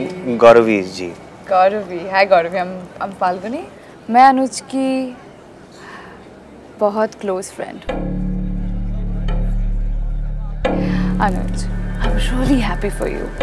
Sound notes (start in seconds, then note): 10.8 Falguni gasps